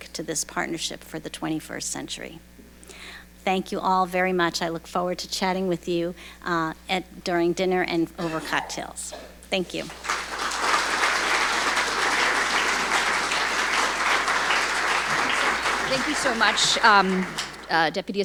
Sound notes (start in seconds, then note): 9.8 audience applauding